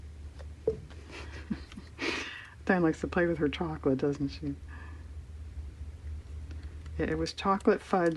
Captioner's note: laughs